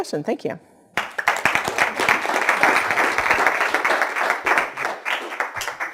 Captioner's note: clapping